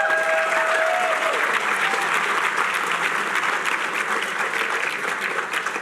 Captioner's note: cheering